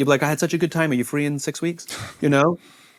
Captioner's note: chuckles